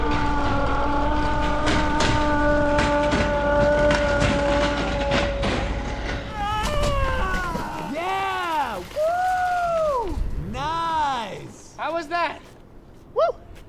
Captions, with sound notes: [muted yelling] [yelling] Yeah! Woo! -Nice. -How was that? Woo.